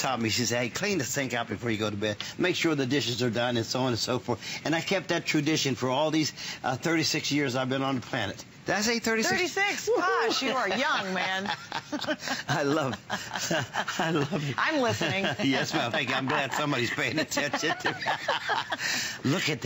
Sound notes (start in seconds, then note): 15.4 laughter